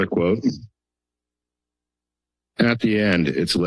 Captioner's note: pause